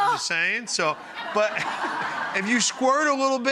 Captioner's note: audience laughs